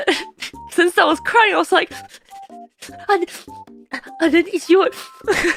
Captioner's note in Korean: 오열